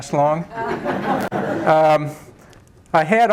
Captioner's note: laughter